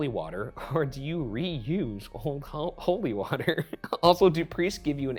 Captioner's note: chuckles